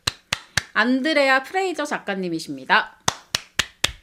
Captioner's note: applause